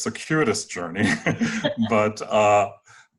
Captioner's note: laughs